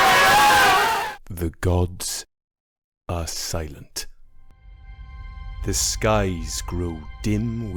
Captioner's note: cheering